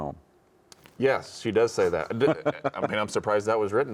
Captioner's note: chuckling